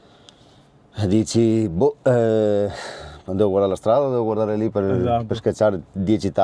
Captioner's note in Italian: sospiri